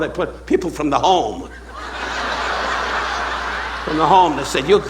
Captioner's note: audience laughing